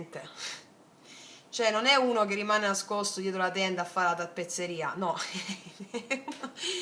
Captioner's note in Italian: risate